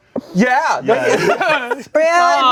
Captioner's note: everyone laughs